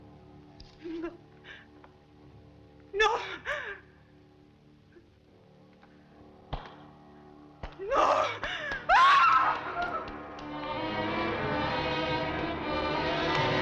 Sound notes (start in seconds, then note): 7.8 screams; 9.6 suspenseful orchestral music